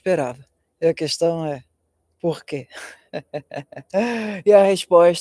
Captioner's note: laughter